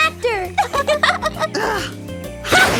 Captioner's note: giggling